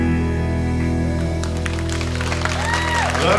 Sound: cheers and applause

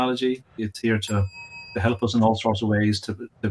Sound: bell dings

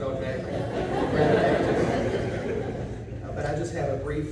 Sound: laughing

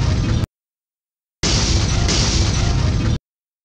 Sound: crash, crash!

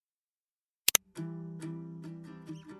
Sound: mouse clicks; soft guitar strumming

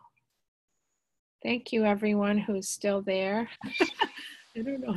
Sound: laughs

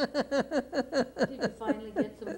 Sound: laughter

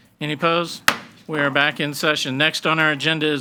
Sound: gavel bangs

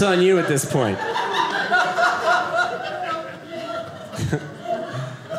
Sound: audience laughing

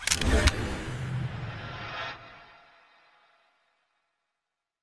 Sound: logo whooshes

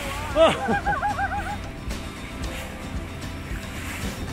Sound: joyful sounds

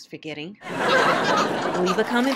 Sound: audience laughs

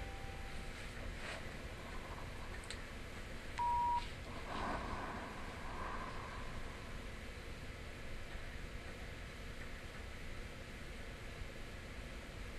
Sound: ghostly whispers

